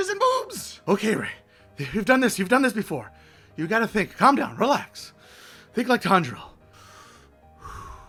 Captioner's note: deep breath